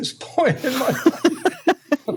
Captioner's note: laughter